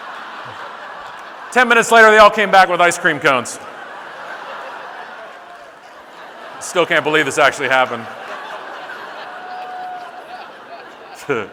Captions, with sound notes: "10 minutes later they all came back with ice cream cones. (audience laughing) "I still can't believe this actually happened." (audience laughing)